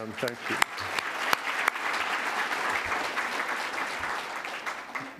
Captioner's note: applause